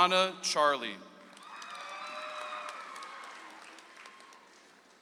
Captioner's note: audience applauds